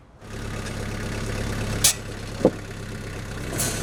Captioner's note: engine revving